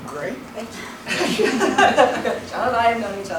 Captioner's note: laughter